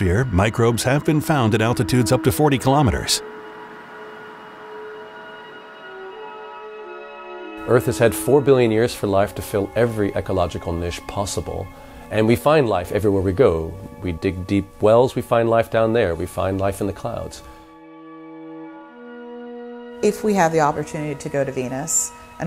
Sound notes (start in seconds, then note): 3.5 air whooshing; 3.5 light music